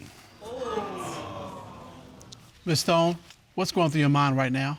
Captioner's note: audience exclaiming